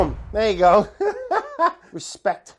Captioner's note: laughs